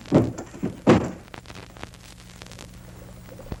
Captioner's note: banging